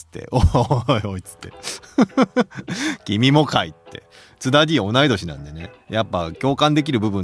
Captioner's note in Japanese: 笑い